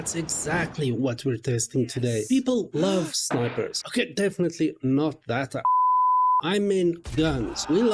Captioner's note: beep